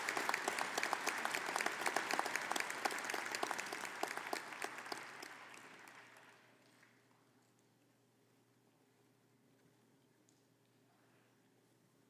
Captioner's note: applause